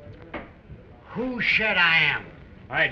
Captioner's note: slurring